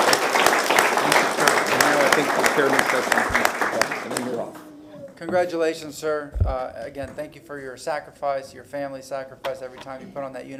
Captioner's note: applause